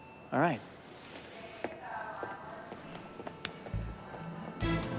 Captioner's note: footstep